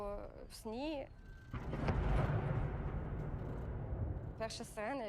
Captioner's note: air raid siren blaring and explosions